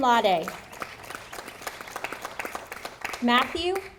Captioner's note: audience applauding